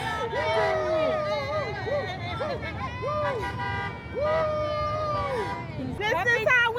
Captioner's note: crowd cheering; muffled celebratory cheering; car honking